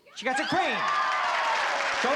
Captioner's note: applause and cheering